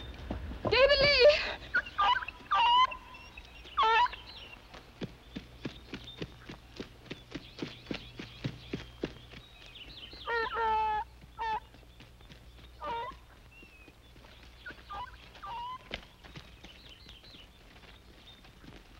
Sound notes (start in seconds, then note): 2.0 whimpering